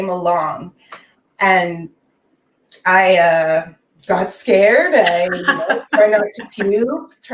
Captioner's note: faintly speaking